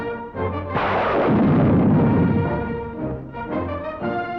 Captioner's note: explosion